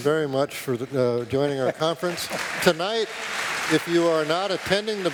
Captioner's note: applause